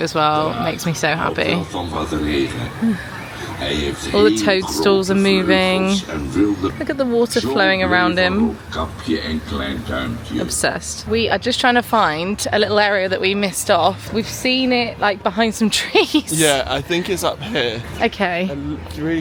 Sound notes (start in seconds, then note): 8.6 tree speaking in foreign language; 15.9 laughing